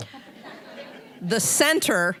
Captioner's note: audience laughing